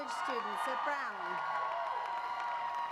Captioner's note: applause